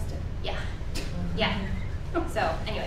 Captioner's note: woman chuckles